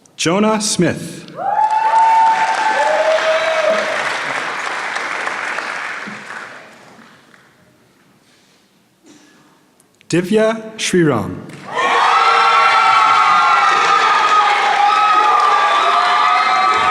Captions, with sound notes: Jonah Smith. (applause) Divya Shreerum. (applause)